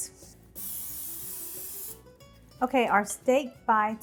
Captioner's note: spraying